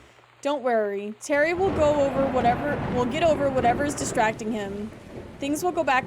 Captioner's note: thunder